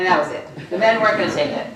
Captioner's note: laughter